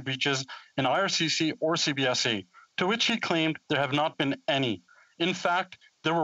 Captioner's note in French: voix de l'interprète